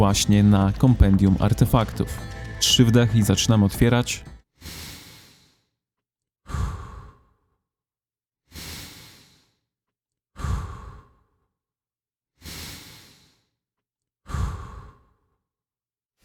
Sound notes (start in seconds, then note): 5.6 inhale - exhale